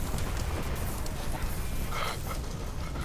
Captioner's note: thunder rumbling; panting